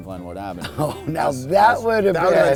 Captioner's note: laughing